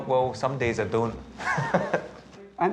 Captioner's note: laughs